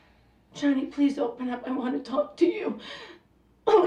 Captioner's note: voice cracking